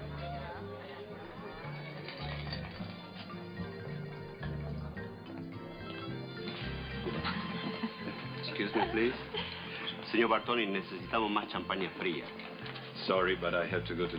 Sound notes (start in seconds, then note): 10.4 speaking spanish